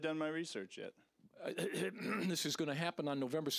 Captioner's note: clearing throat